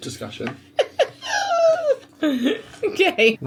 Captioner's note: laughs